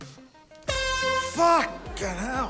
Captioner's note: honk!